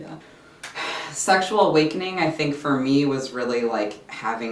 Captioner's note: sighs